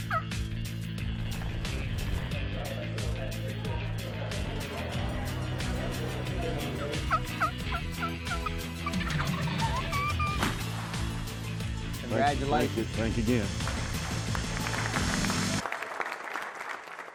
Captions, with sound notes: (turkey call) (chattering) (turkey call) (shot fires) - Congratulations. - Thank you, thanks again. (applauding)